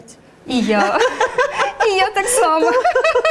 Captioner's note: laughs